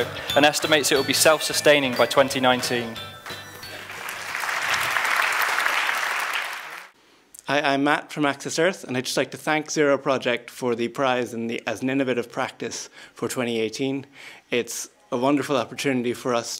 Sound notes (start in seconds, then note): 3.6 applause